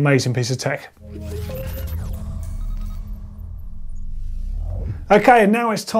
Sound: digital beeping

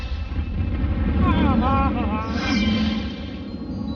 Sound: laughing

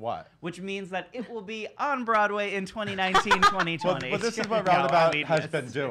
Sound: laughs

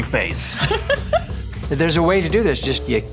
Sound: laughs

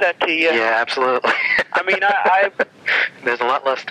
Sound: laughs

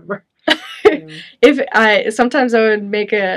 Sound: chuckles

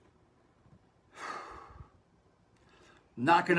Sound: sighs

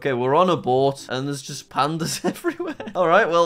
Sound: laughs

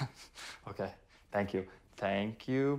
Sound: laughs

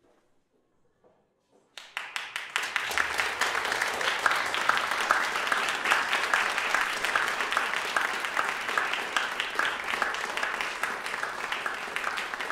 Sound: applause

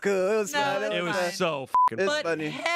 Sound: beep

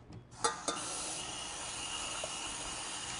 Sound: running water

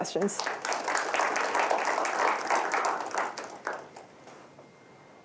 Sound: applause

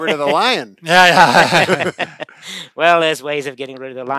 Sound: laughing

